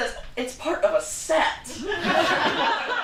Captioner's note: audience laughter